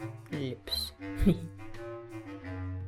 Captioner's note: chuckles